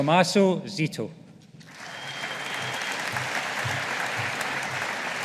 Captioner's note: audience applauding